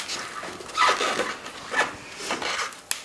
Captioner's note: crunching